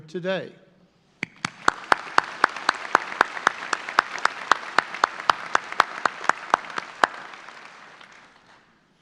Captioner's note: audience applause